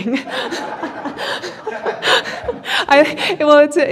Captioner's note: laughing